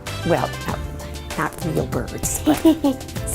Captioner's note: laughs